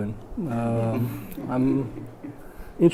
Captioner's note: laughter